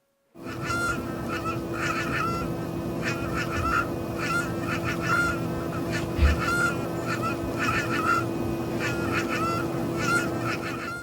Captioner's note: coil whine